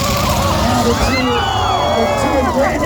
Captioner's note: car crashes; crowd